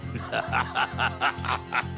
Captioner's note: laughing